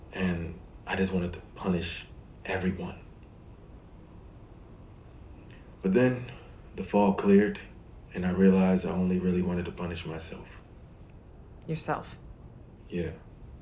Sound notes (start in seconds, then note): none